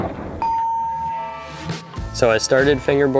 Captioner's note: bell dinging